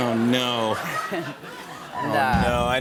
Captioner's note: laughter